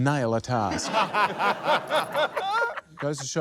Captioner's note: laughter